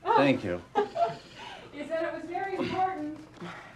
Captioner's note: laughing